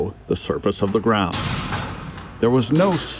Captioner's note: metal clanging